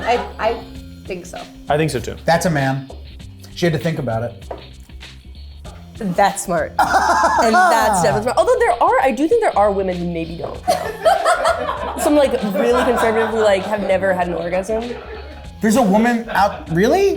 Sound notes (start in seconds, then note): 6.8 laughs; 10.7 laughs